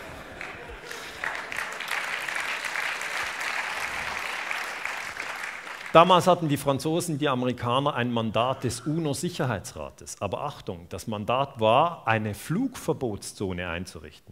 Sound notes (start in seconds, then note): 0.0 applause